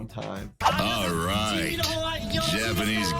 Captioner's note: host speaking Japanese